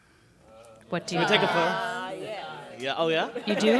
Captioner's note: students chattering